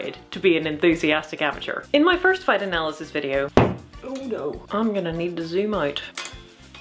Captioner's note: thunk